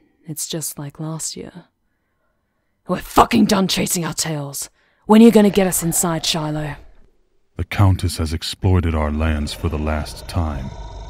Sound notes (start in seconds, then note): 5.1 growling; 5.1 the wolf pack growls, frustrated and eager to fight